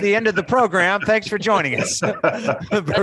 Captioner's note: laughing